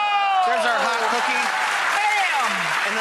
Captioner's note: audience cheers